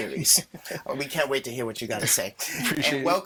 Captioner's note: infernal laughing